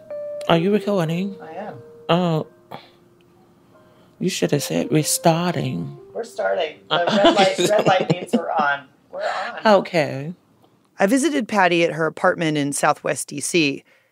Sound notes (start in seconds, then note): 7.0 laughter